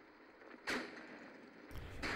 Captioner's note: gunfire